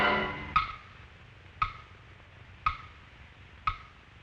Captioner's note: loud ticking